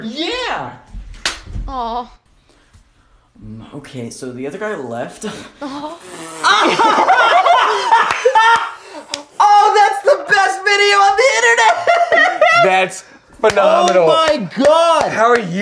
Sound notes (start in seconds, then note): 6.4 uproarious laughter